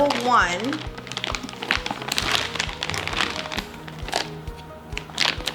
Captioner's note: packaging crinkling